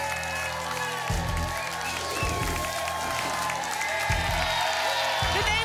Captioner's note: applause and cheering cont